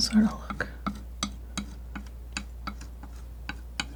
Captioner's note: tapping